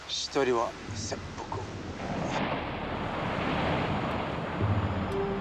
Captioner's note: speaking foreign language